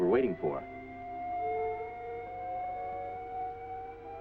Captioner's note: machine humming